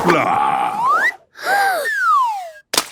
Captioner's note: Peppa gasps